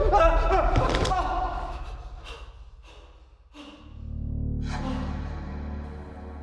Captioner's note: Danny shrieks; thudding; light dramatic music; heavy breathing